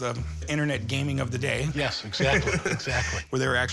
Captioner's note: laughs